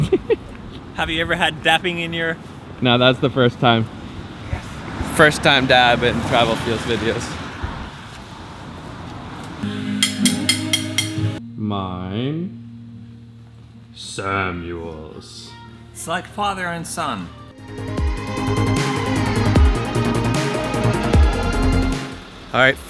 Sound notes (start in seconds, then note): 9.9 clicking; 19.1 inspiring music